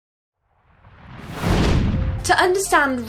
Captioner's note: whooshing